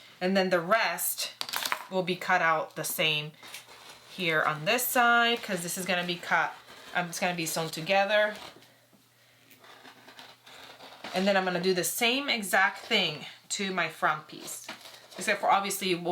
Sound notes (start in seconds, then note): 9.6 roller cutter rolling